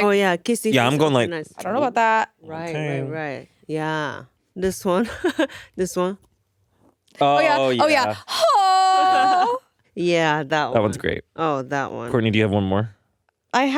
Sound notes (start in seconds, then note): 5.6 laughs; 7.8 groaning; 8.8 Atsuko laughing